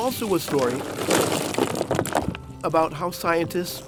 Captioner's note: oysters clattering